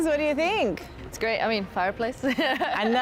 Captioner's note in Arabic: تضحك